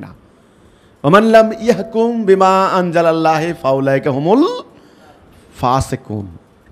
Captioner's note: Arabic